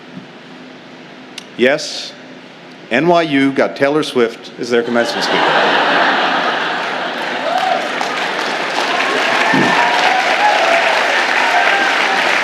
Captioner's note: laughter and applause